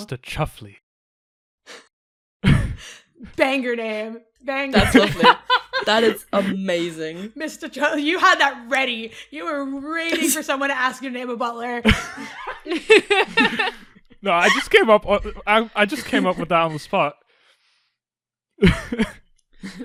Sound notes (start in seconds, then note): 4.7 laughs; 11.8 laughter; 18.4 laughs